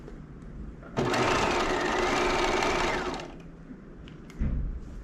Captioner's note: sewing machine whirling